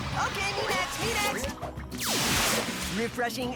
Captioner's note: whoosh